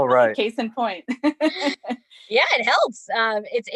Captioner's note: both chuckles together